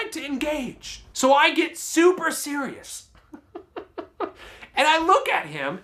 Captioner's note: laughs